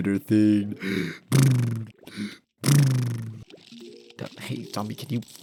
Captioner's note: inhale